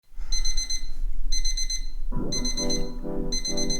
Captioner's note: alarm clock rings